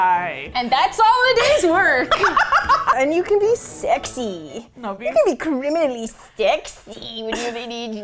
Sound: laughs

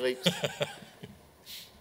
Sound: laughs

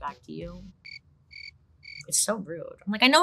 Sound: crickets chirping

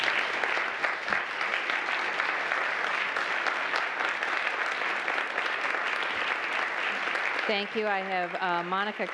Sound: applause

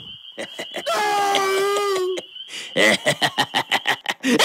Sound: laughter

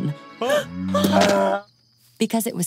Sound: gasps

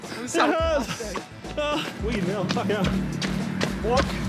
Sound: grunts

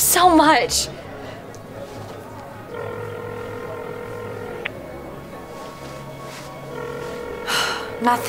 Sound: phone ringing

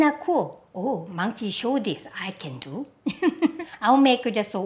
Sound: laughs

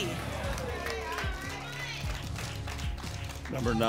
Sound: applause

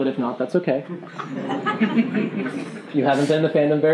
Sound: giggling

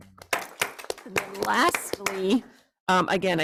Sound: group applauds

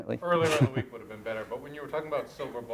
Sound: voiceover

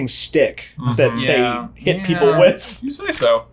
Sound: murmuring in agreement; laughing

